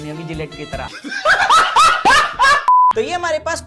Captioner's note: laughs